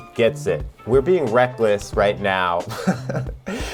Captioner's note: chuckles